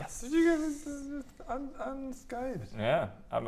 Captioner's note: outraged squeaking